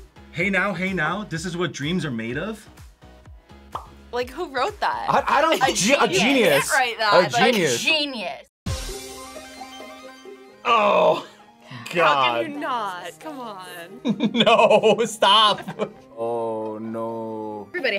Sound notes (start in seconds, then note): 8.8 upbeat music; 14.0 laughs